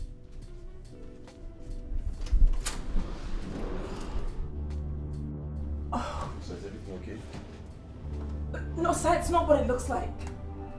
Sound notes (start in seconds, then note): 4.4 score - Tension; 5.9 sigh of stress